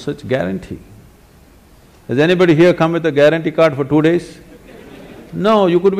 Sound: laughter; 笑聲

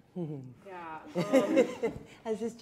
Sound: laughing

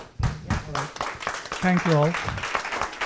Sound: audience clapping

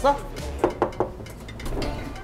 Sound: knock

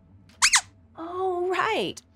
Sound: squeaks squeaking

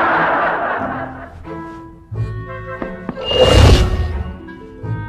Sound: tap, tap

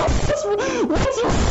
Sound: breath

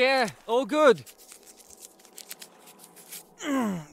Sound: groans in pain

